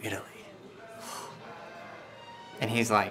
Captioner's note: scoffs